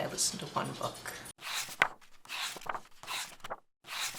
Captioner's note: pages turning